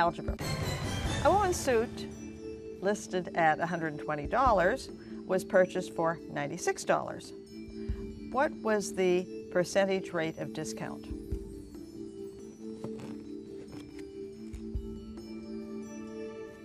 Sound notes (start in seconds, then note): none